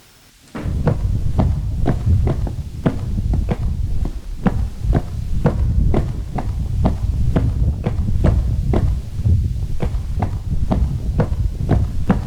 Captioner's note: footsteps